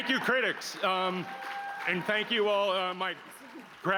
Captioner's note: applause